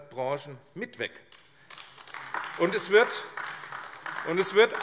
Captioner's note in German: Beifall AfD